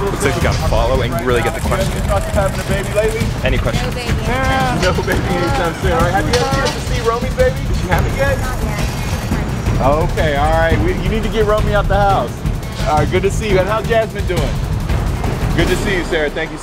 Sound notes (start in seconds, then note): 7.2 murmurs; 7.8 upbeat music